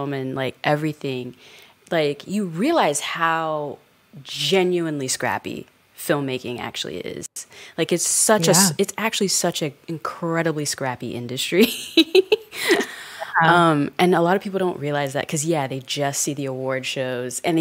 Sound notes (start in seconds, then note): 11.7 chuckles